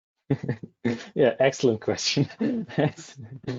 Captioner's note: laughing